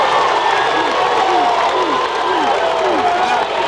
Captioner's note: cheering loudly